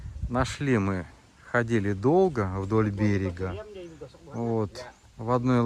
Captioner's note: wind